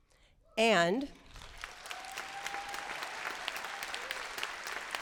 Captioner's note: applause